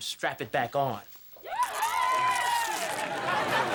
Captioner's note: crowd cheering